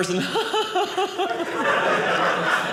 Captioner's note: audience laughing